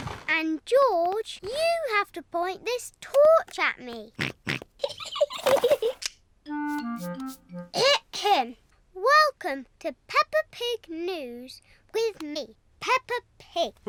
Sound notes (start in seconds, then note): 4.2 snorts; 4.8 giggling